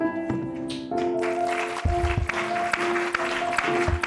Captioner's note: applause